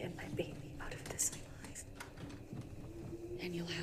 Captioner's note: thunder Rumbling